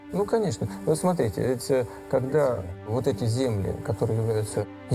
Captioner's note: speaking foreign language